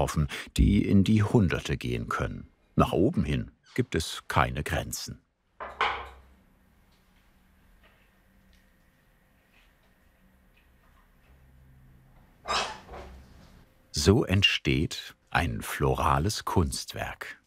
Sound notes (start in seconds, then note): 5.3 rattle; 12.4 squeaking sound